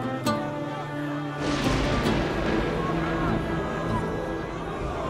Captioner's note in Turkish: Gök gürültüsü efekti; Kalabalık bağrışma sesleri